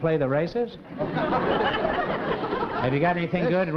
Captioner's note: laughter